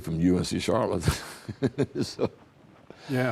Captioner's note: both chuckling